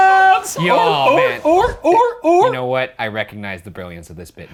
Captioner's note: Professor barks like seal